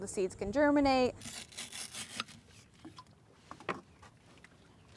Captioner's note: scratching